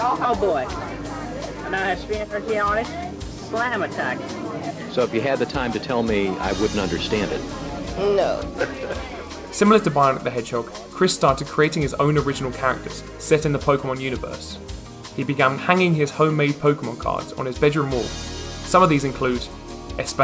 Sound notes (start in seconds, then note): 8.5 laughter